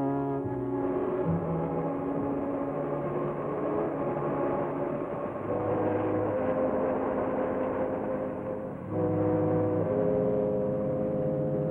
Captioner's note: ominous music; vehicle rumbles